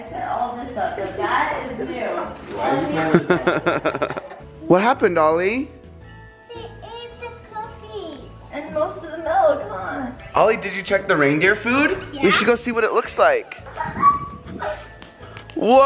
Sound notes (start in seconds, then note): 3.0 laughter; 13.2 laughing